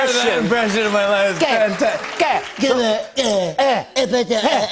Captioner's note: speaking gibberish